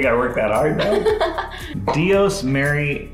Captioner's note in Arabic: تضحك